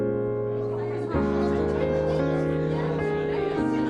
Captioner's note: lively chatter